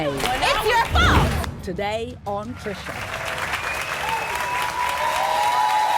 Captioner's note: applause and cheers